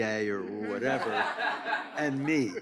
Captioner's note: audience laughs